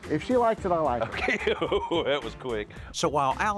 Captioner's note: chuckles